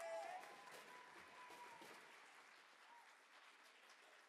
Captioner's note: audience applaud